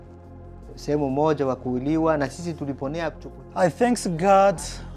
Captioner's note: speaks in Swahili